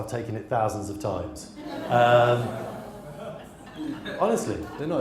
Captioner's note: audience laughs